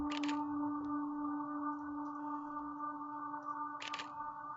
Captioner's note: camera shuttering